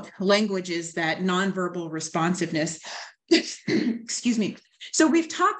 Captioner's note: coughs